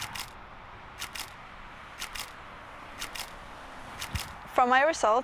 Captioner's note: camera shutter click sound